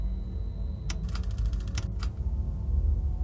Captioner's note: gloomy music; button clicks; projector clatters; gloomy music